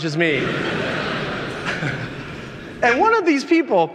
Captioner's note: audience laughing